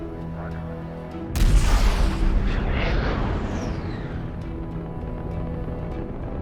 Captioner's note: rocket boosters separating